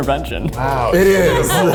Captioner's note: laughs